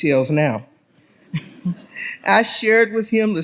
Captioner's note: audience laughs